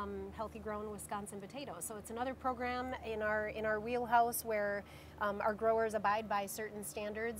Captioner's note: none